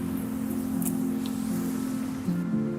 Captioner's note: none